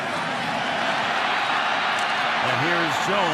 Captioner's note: cheering